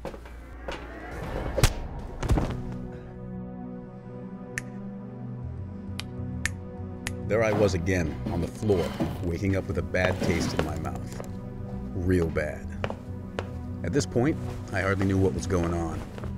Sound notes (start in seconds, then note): 2.4 ominous music; 4.4 snapping